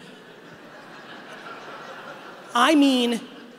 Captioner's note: audience laughing